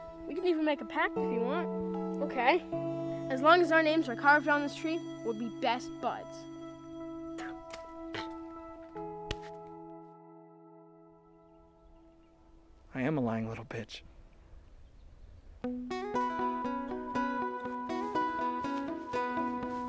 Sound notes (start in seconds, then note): 7.9 spitting; 17.6 spurring music